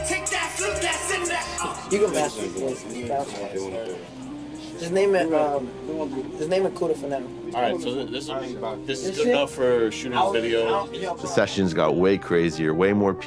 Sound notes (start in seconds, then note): 2.0 indistinct chatter